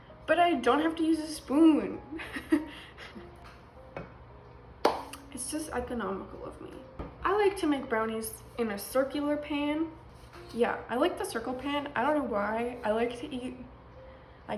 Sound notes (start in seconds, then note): 3.8 laughs; 4.9 claps